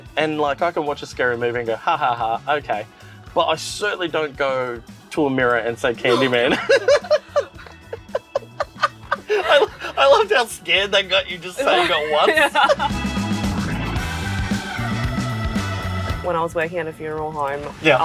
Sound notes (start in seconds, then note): 6.0 both laughing; 12.8 cheerful music